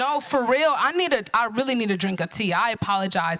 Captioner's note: none